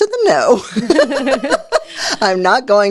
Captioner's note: laughing